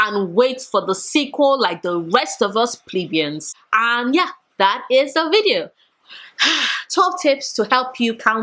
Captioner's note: sigh